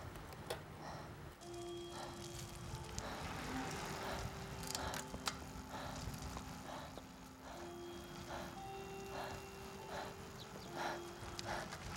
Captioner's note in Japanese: チャイム